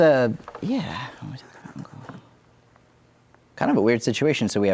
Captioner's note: mumbles